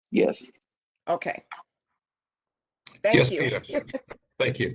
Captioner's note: laughter